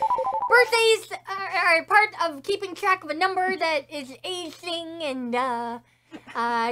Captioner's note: chuckles